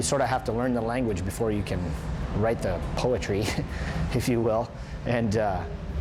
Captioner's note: chuckling